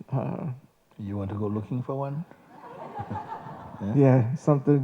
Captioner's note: laughter